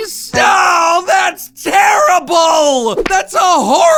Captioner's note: screaming